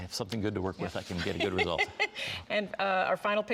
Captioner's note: giggling